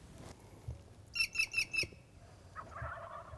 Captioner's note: birds chirping; turkey gobbling